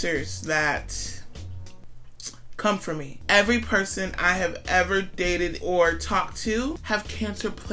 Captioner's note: lip smack